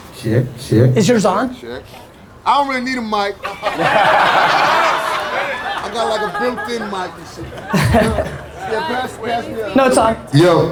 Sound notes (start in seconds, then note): 3.4 audience laughter; 7.7 laughs